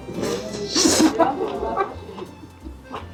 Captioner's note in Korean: 후루룩